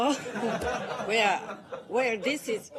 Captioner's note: laughter